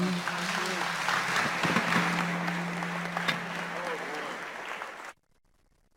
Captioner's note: applause